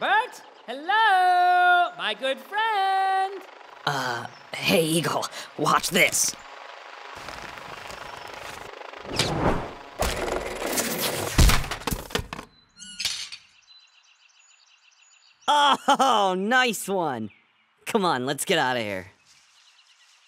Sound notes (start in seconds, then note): 11.3 crash; 15.5 laughs